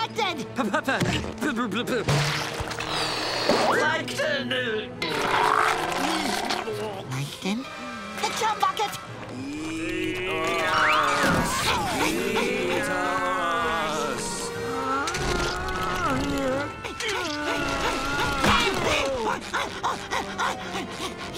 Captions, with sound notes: P-P-P-P-P..... Plankton! Plankton? The Chum Bucket! Eat us. Eat us. [groaning] [panting]